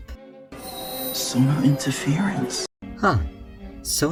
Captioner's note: feedback noise